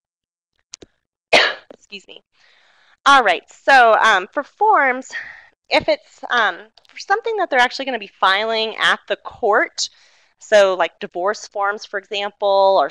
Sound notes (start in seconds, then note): 1.3 coughs